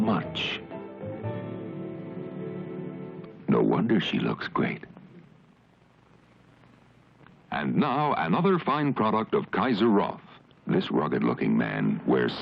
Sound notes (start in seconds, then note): none